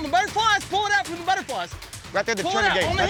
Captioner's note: shouting